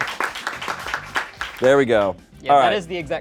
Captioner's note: crew cheers and applauds